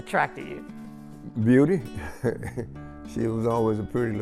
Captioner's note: chuckles lightly